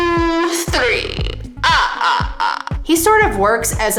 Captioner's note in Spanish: Acento rumano; Romanian accent